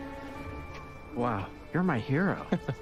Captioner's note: chuckles